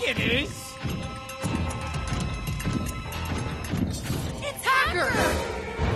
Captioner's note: transformed hacker heavy footsteps